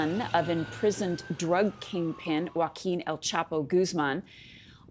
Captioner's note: siren